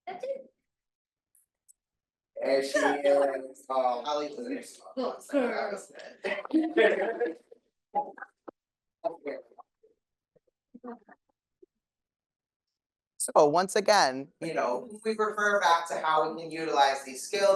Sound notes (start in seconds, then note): 3.8 speaking faintly